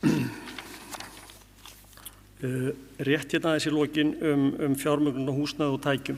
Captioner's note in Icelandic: ræskir sig